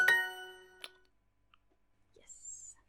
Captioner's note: Duolingo ding